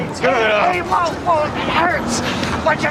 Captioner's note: moaning